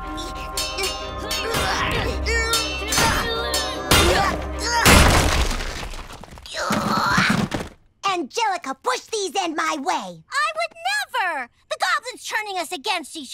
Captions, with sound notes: [grunting] [groaning] Angelica pushed these in my way. I would never. The goblin's turning us against each other.